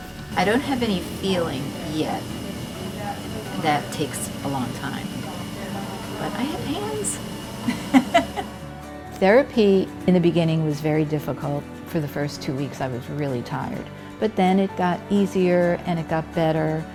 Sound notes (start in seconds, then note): 7.6 laugh